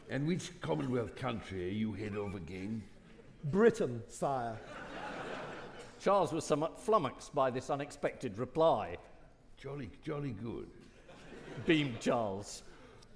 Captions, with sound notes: - And which commonwealth country are you head of again? - Britain, sire. (audience laughing) - Charles was somewhat flummoxed by this unexpected reply. - Jolly, Jolly good. - Beamed Charles.